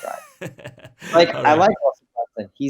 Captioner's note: laughs